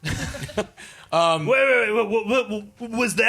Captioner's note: laughing